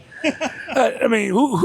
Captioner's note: laughing